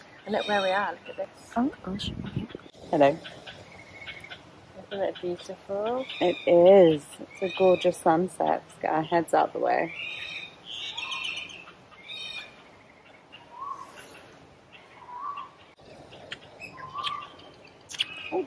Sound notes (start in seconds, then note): 11.4 birds chirping